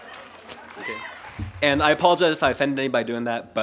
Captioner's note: laughter & cheering